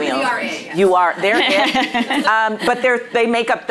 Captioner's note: laughing